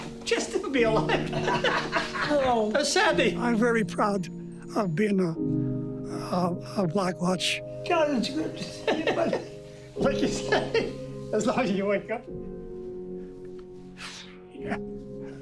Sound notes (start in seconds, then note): 2.1 laughing